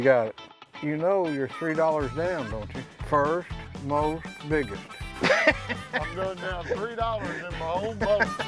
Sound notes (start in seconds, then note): 5.0 laughs